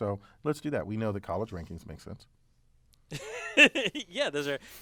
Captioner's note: laugh